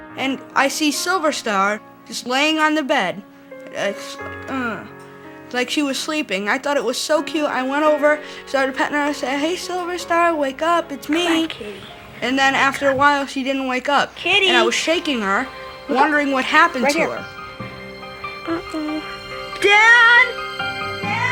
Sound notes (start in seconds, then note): 4.7 groans; 17.4 suspenseful music